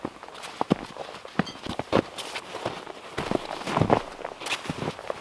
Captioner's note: footsteps crunching